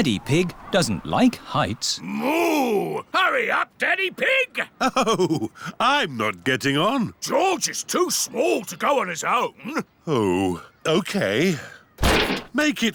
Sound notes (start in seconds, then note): 4.7 chuckling